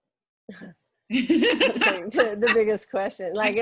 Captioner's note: laughs